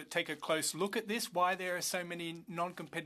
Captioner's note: speaking French